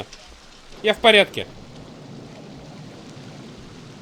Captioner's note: thunder